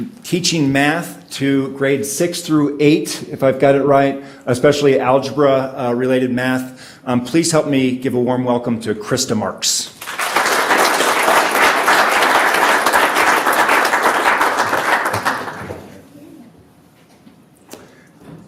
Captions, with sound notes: teaching math to grade six through eight, if I've got it right. Especially algebra related math. Please help me give a warm welcome to Krista Marks. [audience applauds]